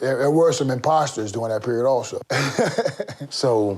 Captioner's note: chuckles